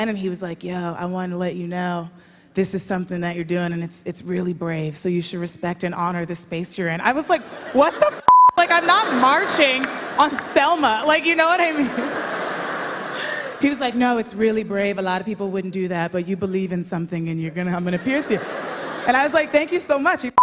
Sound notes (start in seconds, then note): 11.5 laughter; 17.8 laughter